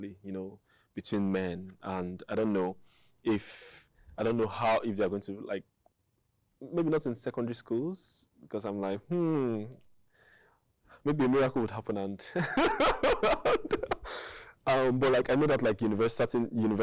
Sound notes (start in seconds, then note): 12.3 laughing